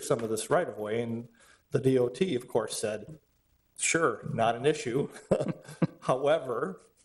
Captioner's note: laughs